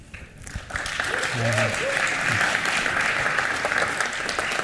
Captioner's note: applause